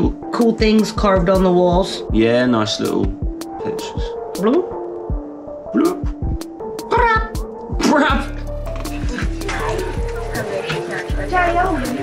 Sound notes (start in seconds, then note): 4.4 bloop, bloop